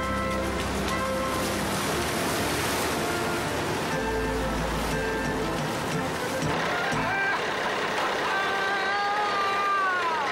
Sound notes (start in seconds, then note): 1.9 water splashing; 7.3 Walter laughing